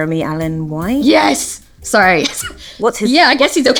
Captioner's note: laughs